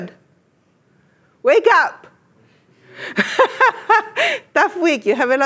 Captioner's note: laughs